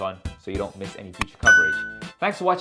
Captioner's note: notification chimes